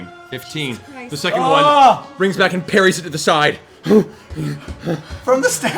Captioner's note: heavy breathing